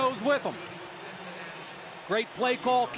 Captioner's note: pa announcement